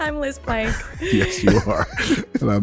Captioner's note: laughs